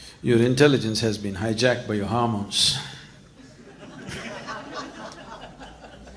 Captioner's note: laughter